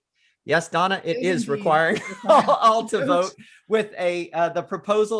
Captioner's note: laughs